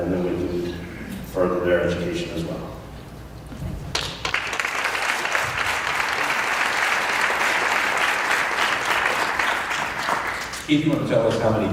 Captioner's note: applause